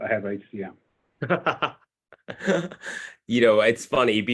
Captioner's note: laughing